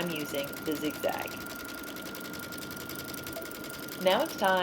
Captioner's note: machine sounds